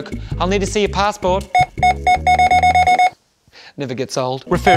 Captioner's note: scanner beeping repeatedly